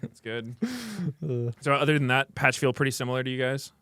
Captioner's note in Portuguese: risos